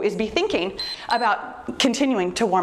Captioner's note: timer beeps